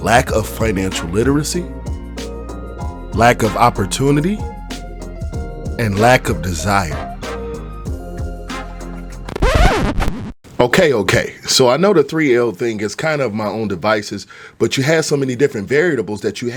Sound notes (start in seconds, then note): 8.0 gentle upbeat music; 8.5 record scratching